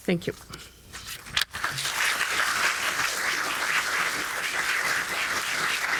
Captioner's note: audience applauding